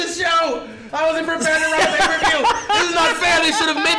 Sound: laugh

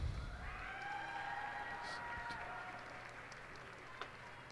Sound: cheers and applause

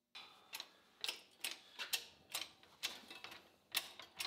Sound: machine clacking

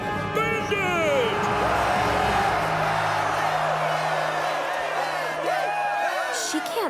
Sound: cheering

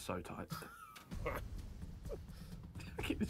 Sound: harry laughs

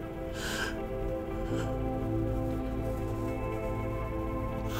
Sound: Bryan sniffles and cries

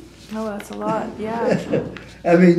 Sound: laughs

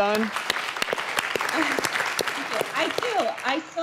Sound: clapping

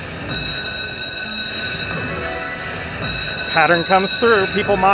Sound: bell ringing

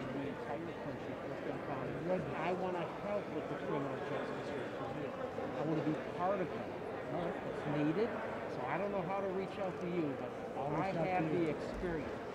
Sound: indistinct chatter

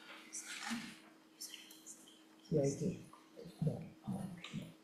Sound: woman speaking off-mic

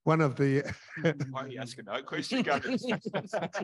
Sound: laughs

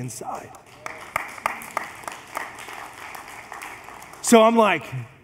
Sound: congregation applauds

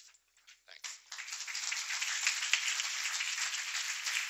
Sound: applause

